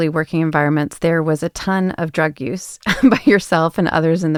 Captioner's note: chuckles